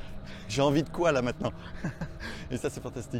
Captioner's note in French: Rire